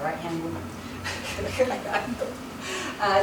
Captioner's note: laughs